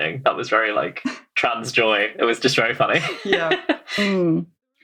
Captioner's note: laughs